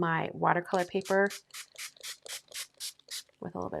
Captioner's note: sprayer hissing